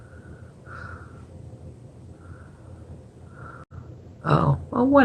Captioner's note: breathing loudly